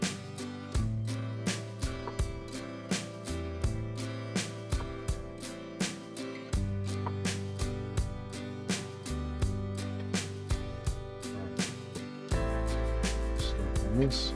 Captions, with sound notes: (footsteps) Snack on this.